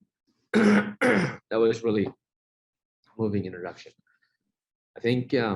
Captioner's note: clears throat